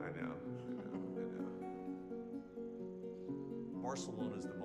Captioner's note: chuckles